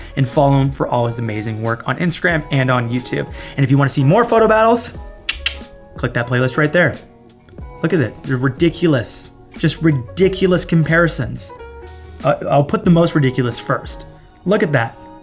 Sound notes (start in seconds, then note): 5.2 clicks tongue